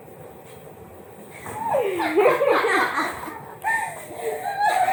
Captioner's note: they laugh